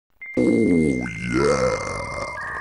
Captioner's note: dial-up modem sounds